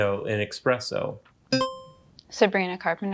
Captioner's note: buzzer chimes